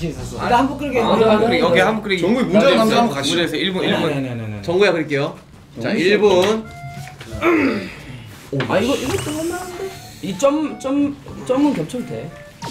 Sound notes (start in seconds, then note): 7.1 hmmm!